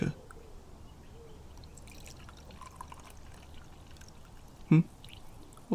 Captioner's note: tea pouring